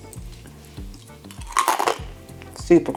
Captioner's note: cronch